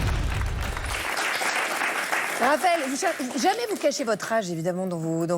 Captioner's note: applause